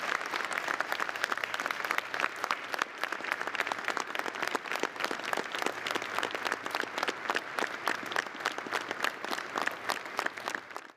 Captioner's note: applause